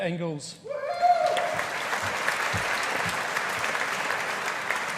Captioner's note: audience applauding